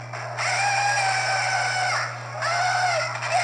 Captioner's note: screaming